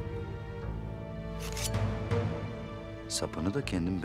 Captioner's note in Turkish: Hançer sesi